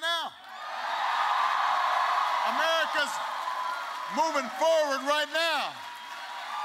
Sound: cheering

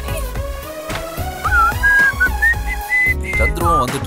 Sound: whistles

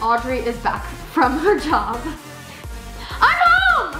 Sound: laughs

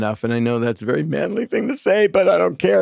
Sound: none

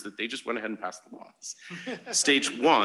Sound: laughter

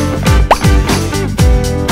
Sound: pop-up noise

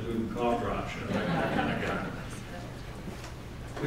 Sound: laughter

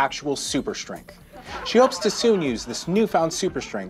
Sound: audience laughing

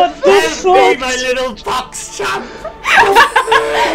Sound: Malefor voice; laughter; Malefor voice

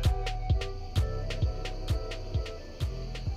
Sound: none

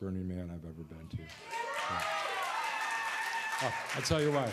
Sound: cheers

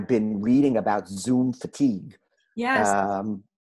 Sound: laughs

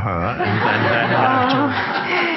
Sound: audience laughs; man and woman laughs

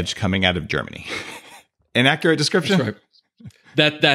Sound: chuckles

